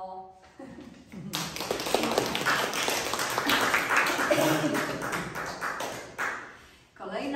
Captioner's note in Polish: oklaski